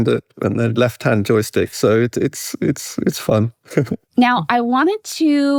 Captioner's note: chuckles